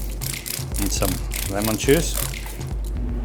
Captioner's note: bottle spraying